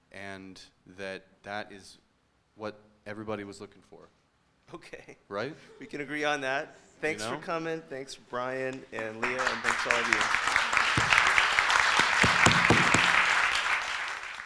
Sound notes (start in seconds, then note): 9.2 applause